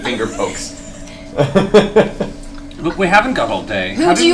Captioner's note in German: Gelächter